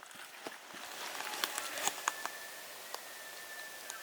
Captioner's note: elk bugling